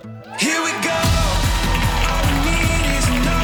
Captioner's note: crowd cheering